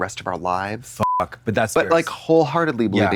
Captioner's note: beep